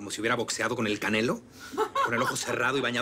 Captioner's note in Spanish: Risas